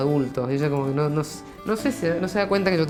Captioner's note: creak